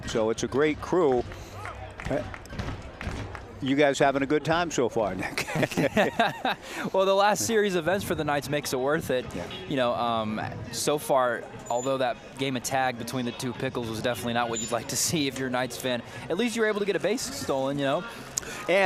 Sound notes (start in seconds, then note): 5.2 laughing